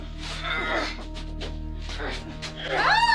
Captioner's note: grunting; screaming